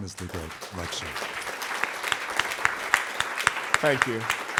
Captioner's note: applause